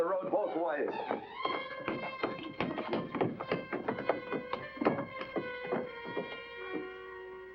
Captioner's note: footsteps scurrying up stairs